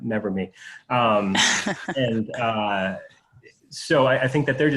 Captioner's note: laughs